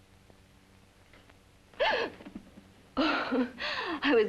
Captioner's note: gasps sharply